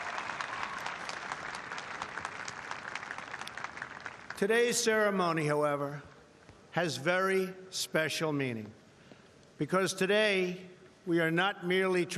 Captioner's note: applause